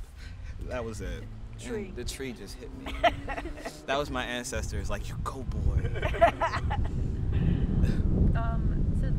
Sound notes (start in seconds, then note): 3.2 cackling; 5.9 panelists cackling